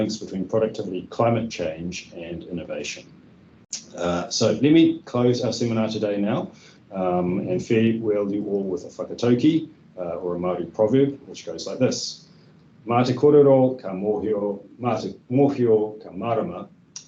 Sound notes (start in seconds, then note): 12.9 speaking in Te reo Māori